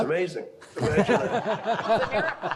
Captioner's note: all laughing